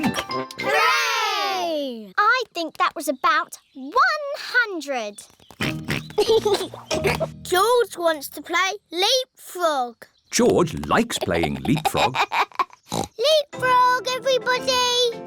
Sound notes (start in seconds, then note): 5.6 oinks and giggles; 10.8 laughs; 12.8 oinks